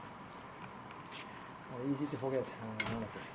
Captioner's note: ambient kitchen noise